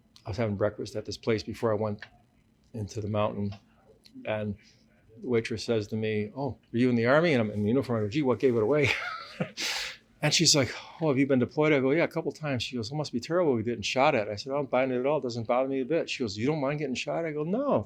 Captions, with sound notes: I was having breakfast at this place before I went into the mountain and the waitress says to me, "Oh, were you in the army?" And I'm in uniform. I go, "Gee, what gave it away?" (laughs) And she's like, "Oh, have you been deployed?" I go, "Yeah, a couple times." She goes, "That must be terrible getting shot at." I said, "I don't mind it at all. Doesn't bother me a bit." She goes, "You don't mind getting shot at?" I go, "No.